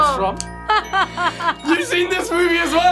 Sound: laughs

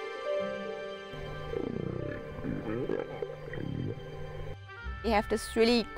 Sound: whales calling

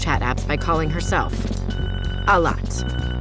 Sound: phone ringing

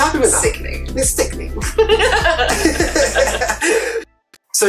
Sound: they laugh

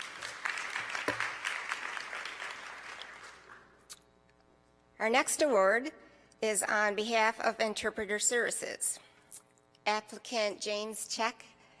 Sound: applause

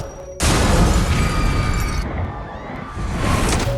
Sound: people screaming

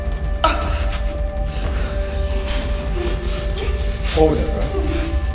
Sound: gasps in pain; alarm beeps

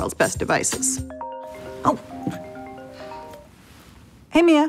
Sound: phone rings

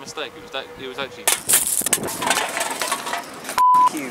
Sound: kicking a can of pepsi sounds

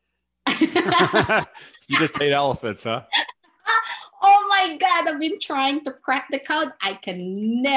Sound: laughs

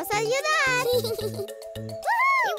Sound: giggling

